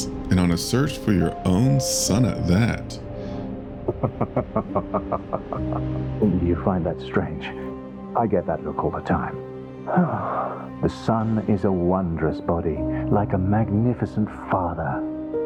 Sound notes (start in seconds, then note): 3.9 laughs; 9.8 sigh